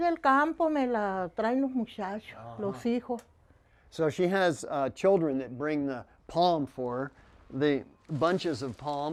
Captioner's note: spanish